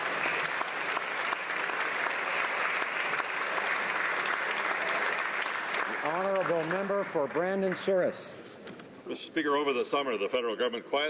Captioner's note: applause